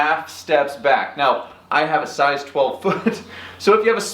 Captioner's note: chuckles